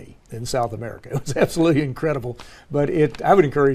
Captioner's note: laugh